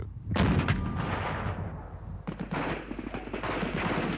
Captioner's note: weapons banging